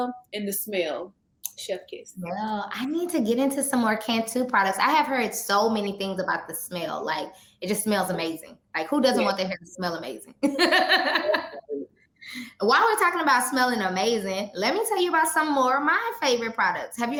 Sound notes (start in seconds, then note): 10.4 chuckles